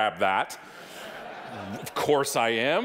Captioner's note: audience laughing